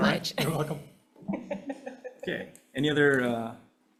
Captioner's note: attendee laughing